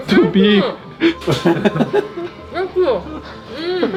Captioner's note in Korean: 일동 웃음